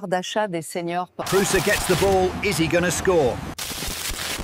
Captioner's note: football commentary